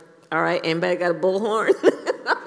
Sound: laughs

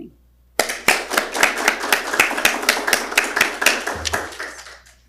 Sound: audience applauding

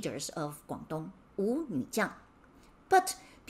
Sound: speaking in Mandarin

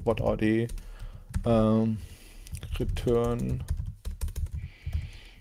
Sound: keyboard clacking

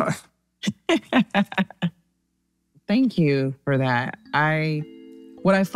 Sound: laughs

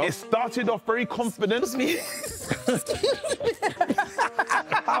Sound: everyone laughs

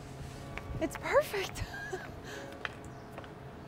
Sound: laughs

